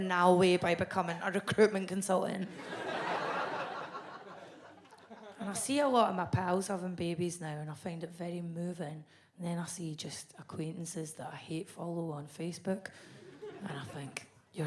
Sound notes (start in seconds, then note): 2.5 audience laughs